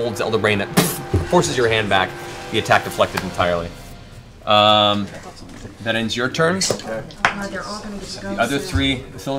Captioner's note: boof